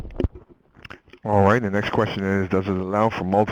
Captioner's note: voiceover